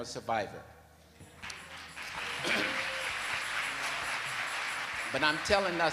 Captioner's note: audience claps